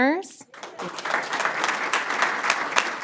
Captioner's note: applause